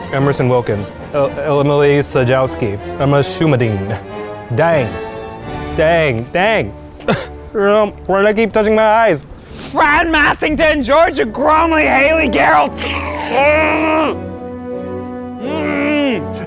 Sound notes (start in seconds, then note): 7.0 coughing; 12.7 whipped cream foaming; 12.9 yelling